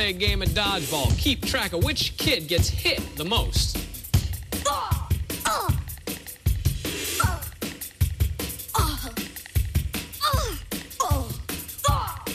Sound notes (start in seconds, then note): 4.2 kids gasping and yelping